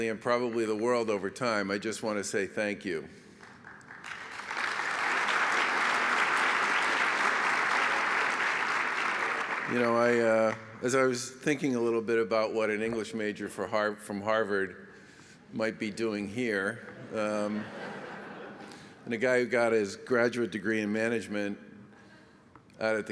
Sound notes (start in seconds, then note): 3.3 applause; 16.9 laughter